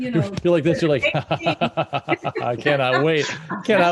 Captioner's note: cackling